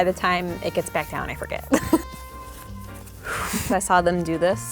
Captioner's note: laughs